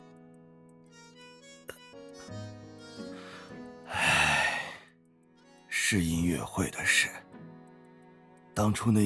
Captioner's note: sighs